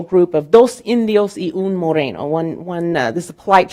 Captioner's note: speaking in Spanish